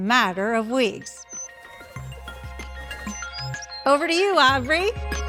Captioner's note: bird chirping